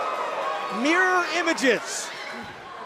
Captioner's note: cheers & applause